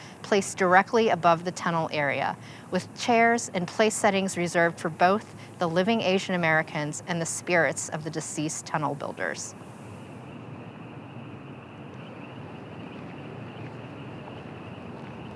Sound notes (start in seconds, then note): 11.1 crickets chirping